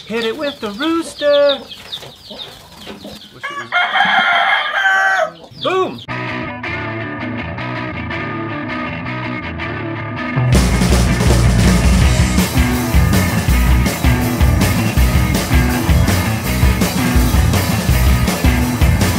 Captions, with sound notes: Hit it with the rooster! *rooster crows* Boom!